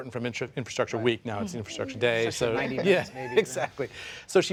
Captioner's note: laughter